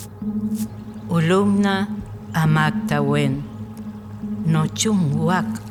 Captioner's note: woman speaking the Millcayac language